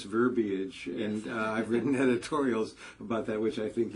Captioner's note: laugh